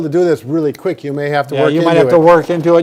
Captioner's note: finger snaps